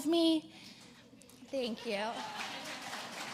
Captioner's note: applause